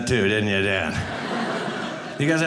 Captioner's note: audience laughing